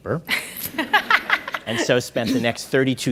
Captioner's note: audience laughing